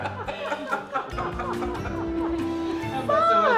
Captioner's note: laughing